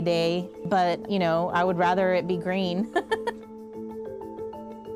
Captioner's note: thrilling music; laughs